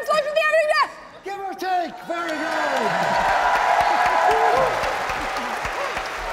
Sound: audience clapping

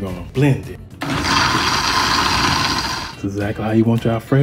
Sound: blender whirring

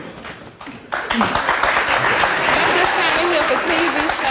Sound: audience applauds

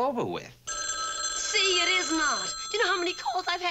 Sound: phone rings

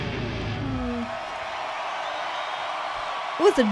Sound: crowd cheering

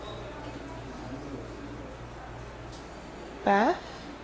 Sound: people chatting

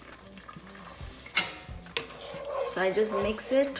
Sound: sizzling

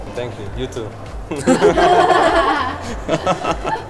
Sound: everyone laughs; laughing

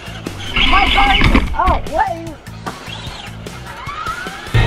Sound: yells; cars whirring

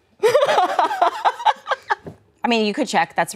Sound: laughing

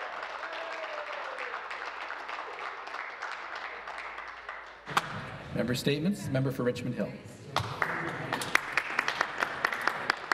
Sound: applause

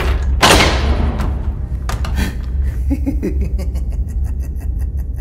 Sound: laughing

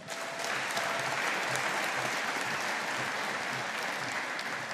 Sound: audience applauding

